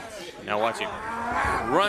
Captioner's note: crowd chatter